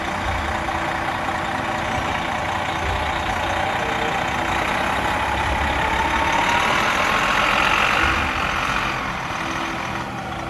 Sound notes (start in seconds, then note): 5.1 coach motor revving